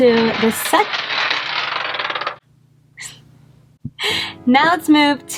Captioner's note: marble rolling upstairs